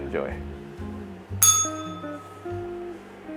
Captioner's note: bell rings